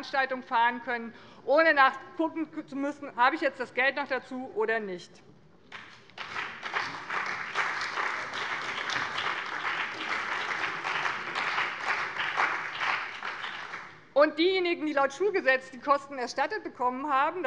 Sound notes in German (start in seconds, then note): 5.7 Beifall bei dem BÜNDNIS 90/DIE GRÜNEN und der CDU